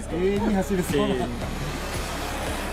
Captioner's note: laughs